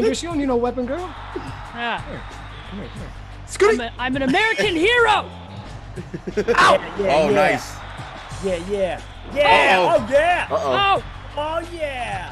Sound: laugh

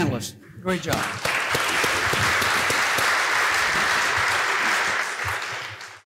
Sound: applause

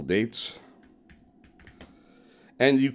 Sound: keyboard clacking

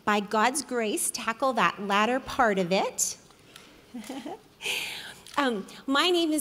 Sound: giggles

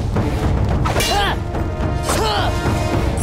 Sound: grunting

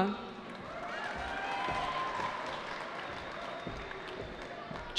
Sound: cheering

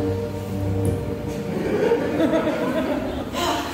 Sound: audience chuckles

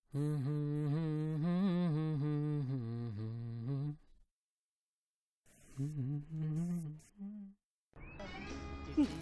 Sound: Manish humming the radio song

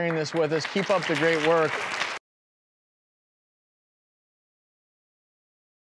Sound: audience applause

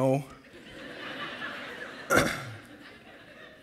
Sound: laughter

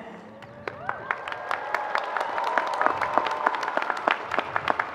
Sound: audience clapping

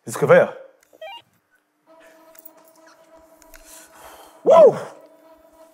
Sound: machine beeping

